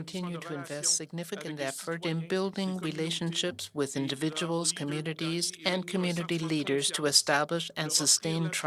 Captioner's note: speaking French